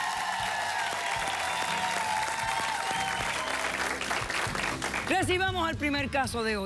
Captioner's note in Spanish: Aplausos y aclamaciones